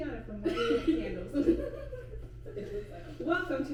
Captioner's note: laughing